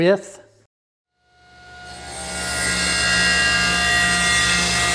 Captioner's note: wood cutting